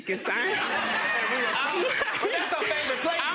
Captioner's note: audience laughing